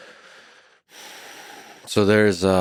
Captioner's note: Lex sighs